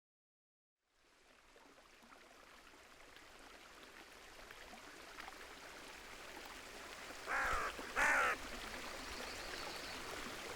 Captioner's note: natural sounds: wind, water, birds